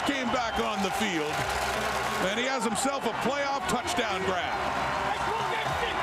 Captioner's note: crowd Noise